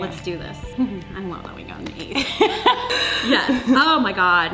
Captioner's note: laughing